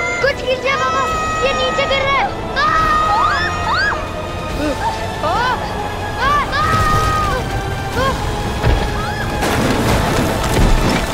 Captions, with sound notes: - Do something, Baba. We're going down. - Baba! [children screaming] - Baba. - Baba! - Ah! - [loud thud]